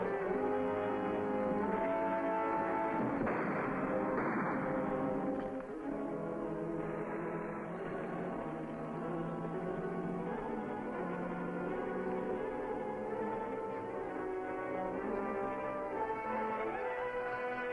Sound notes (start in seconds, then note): 2.6 gunfire blasting; 6.1 suspenseful music